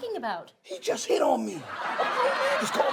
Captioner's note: audience laughs